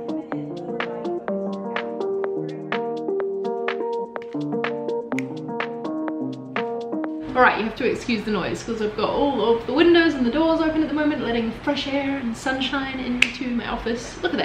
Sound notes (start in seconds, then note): 0.0 bright upbeat music; 5.1 finger snaps